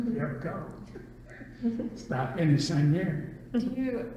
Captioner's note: laughs